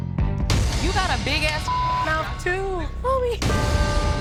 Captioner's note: beep